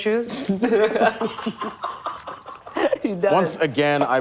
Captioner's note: laughing